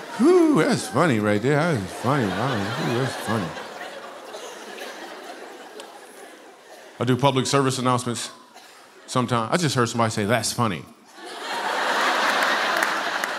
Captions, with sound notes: Whoo, that's funny right there. That was a funny one, that was, he was funny. (laughter) I do public service announcements sometimes. I just heard somebody say, "That's funny." (laughter)